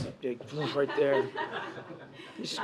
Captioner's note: laughter